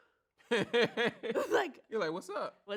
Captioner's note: laughs